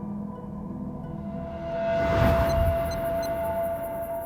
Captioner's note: cellphone beeping